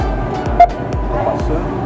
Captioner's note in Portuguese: beep